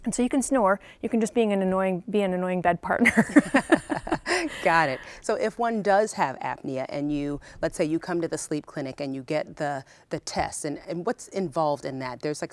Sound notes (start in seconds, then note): 3.0 laughing